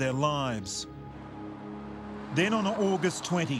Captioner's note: wind gushing